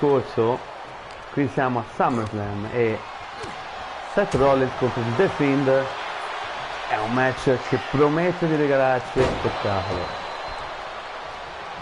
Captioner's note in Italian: Applauso